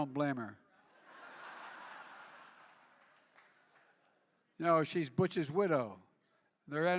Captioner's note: laughter